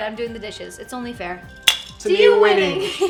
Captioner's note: clink